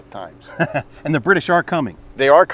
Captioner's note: laughs